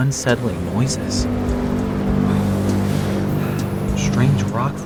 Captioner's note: distant echoing horns